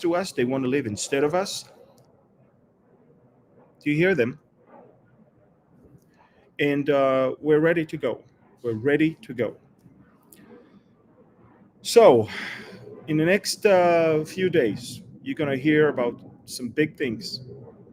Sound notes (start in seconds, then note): 3.8 F-16s taking off